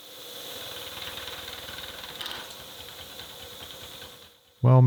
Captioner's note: machine whirring